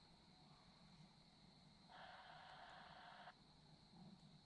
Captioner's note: walkie talkie static